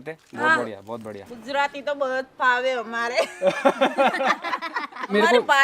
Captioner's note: laughs